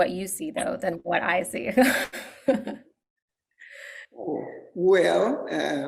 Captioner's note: laughs